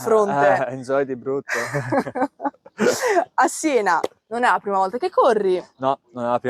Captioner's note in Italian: risate